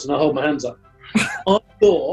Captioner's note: chuckling